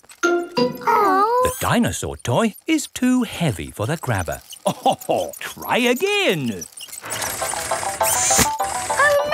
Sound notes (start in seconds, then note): 4.5 chuckles